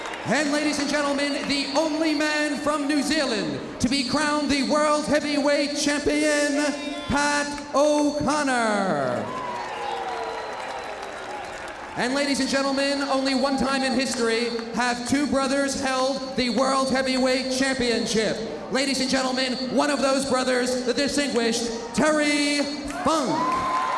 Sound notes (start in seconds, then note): 8.4 crowd applauding; 22.8 crowd applauding